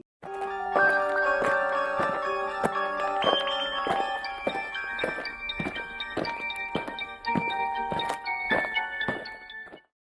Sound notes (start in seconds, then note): 0.3 eerie music; 5.0 alien footsteps